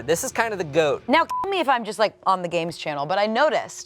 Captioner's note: beep